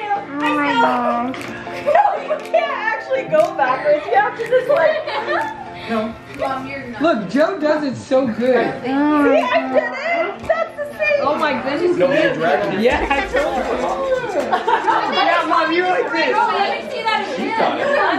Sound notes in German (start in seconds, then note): 13.4 Gelächter